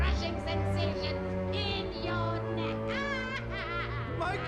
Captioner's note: evil laughing